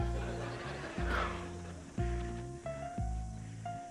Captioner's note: sighs